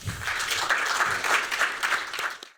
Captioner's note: applause